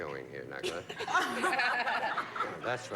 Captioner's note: laughter